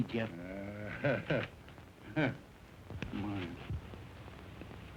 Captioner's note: chuckling